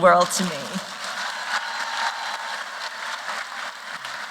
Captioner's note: applause